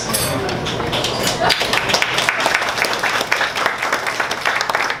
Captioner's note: audience applauds